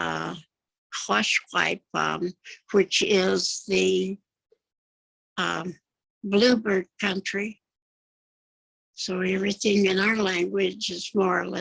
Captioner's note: speaking Yakama